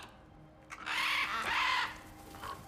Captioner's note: caws; caw